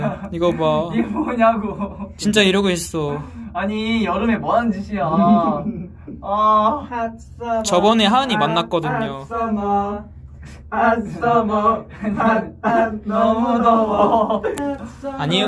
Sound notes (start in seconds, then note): 6.1 whining; 7.1 singing